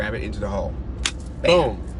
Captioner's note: claps hands